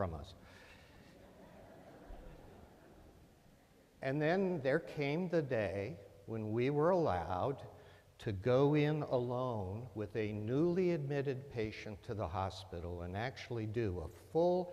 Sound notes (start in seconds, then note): 0.9 laughter